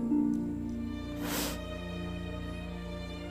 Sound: sniffles

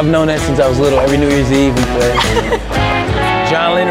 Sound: laughter

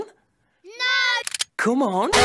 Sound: gun cocking

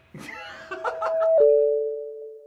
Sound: laughter off screen

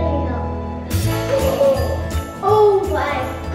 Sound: gasps

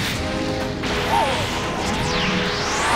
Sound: scared noises

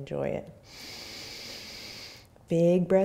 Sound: inhaling

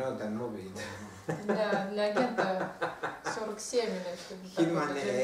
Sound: hahaha

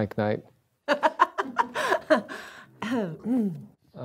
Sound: Judith laughs

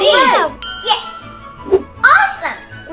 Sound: cheering; ding

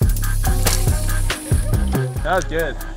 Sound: bicycle crashes

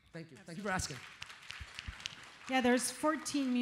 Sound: audience applauds

